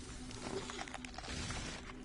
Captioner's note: monster hissing; slimy bones cracking and breaking